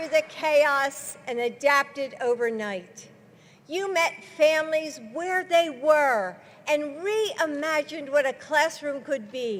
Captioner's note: applause